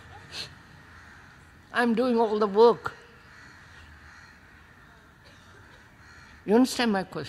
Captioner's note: laughs